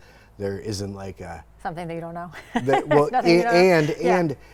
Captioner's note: laughs